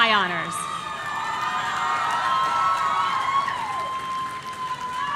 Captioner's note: audience cheering